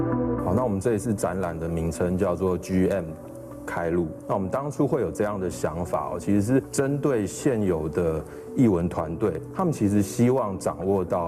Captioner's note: speaking chinese